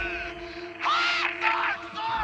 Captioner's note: screams